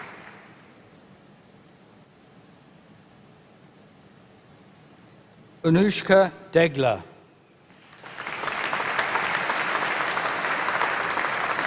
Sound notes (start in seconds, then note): 0.0 applause; 7.7 applause